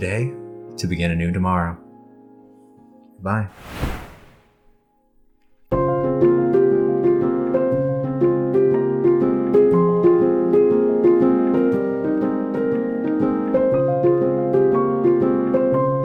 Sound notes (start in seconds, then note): 3.7 wind noise; 5.8 outro piano music